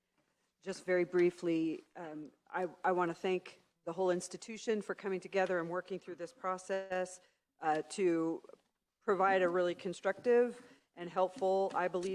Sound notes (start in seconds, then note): none